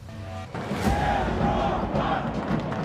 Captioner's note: People shouting - Europe